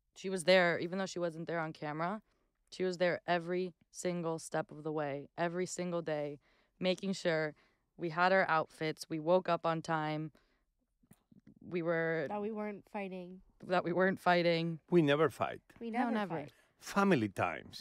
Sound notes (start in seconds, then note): none